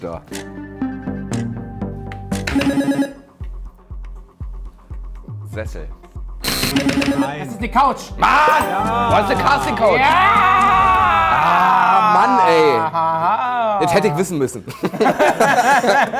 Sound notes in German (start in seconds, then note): 2.1 Buzzer